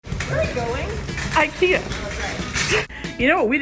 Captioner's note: laughs